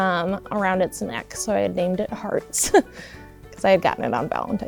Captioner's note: chuckles